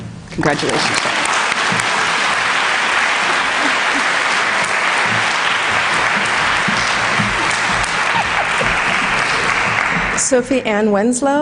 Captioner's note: applause